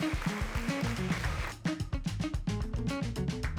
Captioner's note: cheering